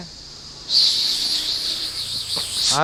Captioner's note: cicada with snake eyes also starts to sing